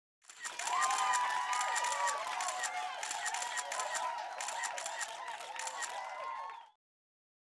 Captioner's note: cameras flashing/audience cheering